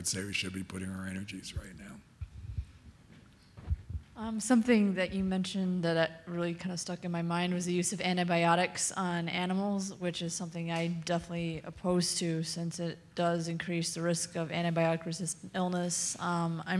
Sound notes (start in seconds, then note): 4.6 voiceover